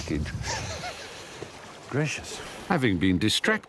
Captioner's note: chuckles